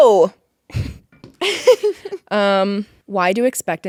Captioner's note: Courtney laughing